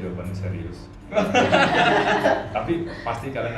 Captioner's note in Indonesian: tertawa